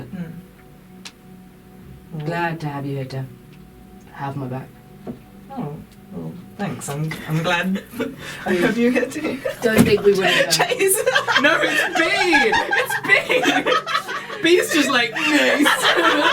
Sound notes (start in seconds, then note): 10.0 breaks into laughter